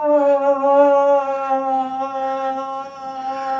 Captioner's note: moaning